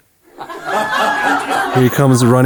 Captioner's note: crowd laughs